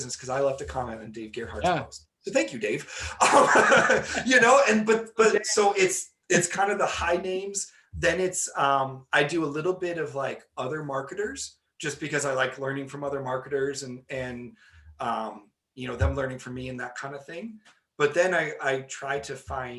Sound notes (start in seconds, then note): 3.0 laughing